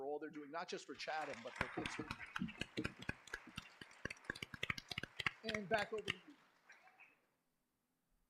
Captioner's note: applause